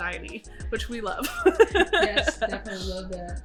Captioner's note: laughs